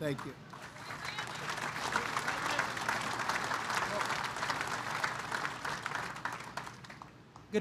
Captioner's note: applause